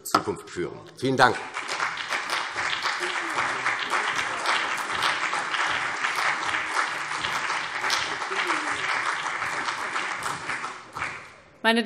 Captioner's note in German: Beifall CDU und BÜNDNIS 90/DIE GRÜNEN